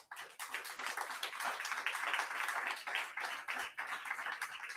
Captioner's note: audience applauding